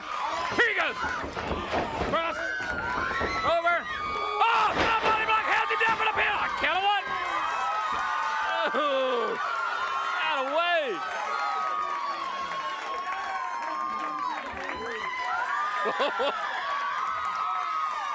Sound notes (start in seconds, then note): 7.1 applause